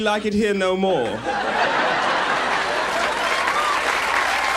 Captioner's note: audience laughs